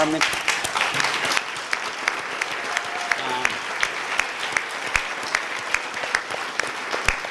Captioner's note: applause